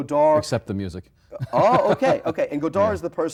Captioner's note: laughs